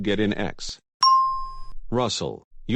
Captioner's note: ding